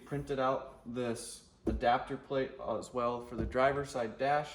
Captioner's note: palm thumping